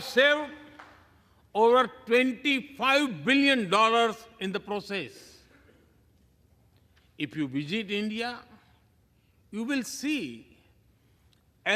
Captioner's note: applause